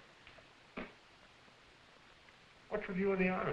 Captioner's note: spitting